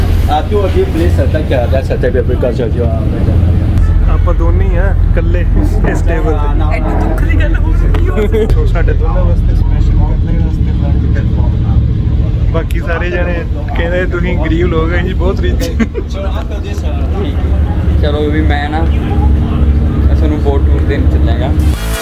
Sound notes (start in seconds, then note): 15.5 laugh